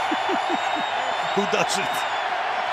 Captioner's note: laughs